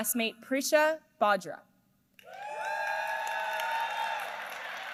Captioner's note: applause